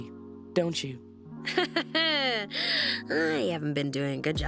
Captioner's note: laughing